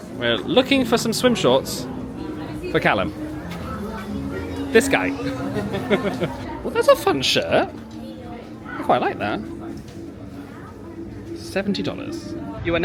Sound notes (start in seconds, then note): 3.5 guests chattering; 5.6 laughing; 7.9 guests chattering